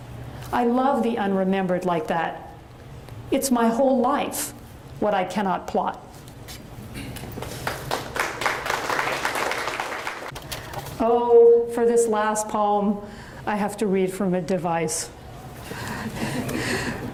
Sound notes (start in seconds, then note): 7.4 audience applauds; 15.6 audience chuckles